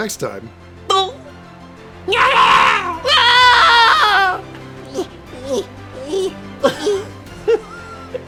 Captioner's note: making Scrat noises